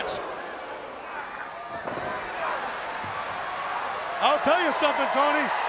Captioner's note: crowd cheering